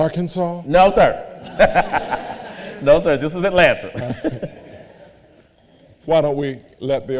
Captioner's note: laughs